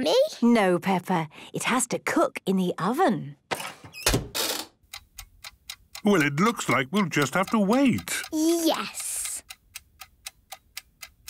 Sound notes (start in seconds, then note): 3.2 dial cranking, oven ticking